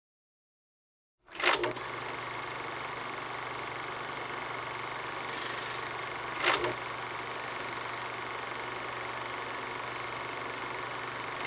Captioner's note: sound of movie reel running